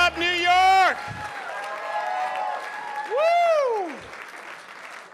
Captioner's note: audience applauding